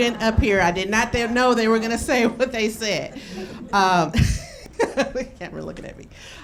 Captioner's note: laughs